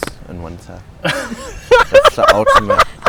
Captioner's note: laughing